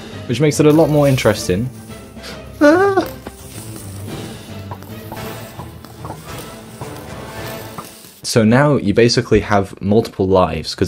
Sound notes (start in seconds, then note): 2.6 yelps